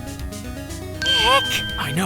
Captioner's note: whispering